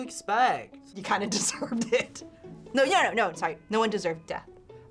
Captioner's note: laughs